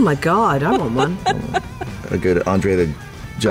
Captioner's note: laughter